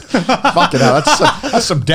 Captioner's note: laughing loudly